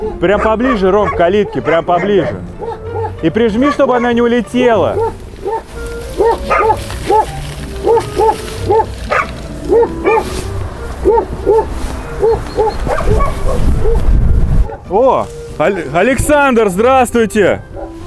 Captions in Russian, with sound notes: Прям поближе, Ром, к калитке. Прямо поближе. И прижми, чтобы она не улетела. [лай собак] О. Александр, здравствуйте.